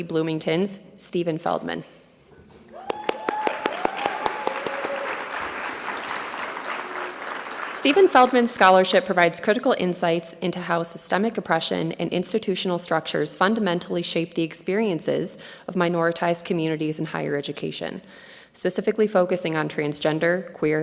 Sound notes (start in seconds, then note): 2.7 audience cheering and clapping